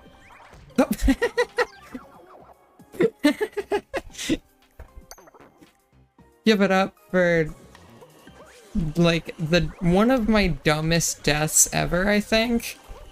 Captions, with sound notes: Oh! [another giggle loop] Oh! [another giggle loop] [giggle loop, continued] [giggle loop, continued] Give it up for... Give it up for... ...like... ...like... the- the- one of my dumbest deaths ever, i think? one of my dumbest deaths ever, i think?